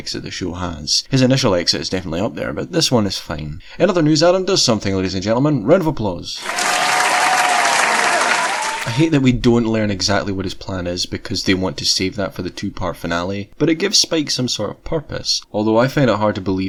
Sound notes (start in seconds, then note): 6.4 round of applause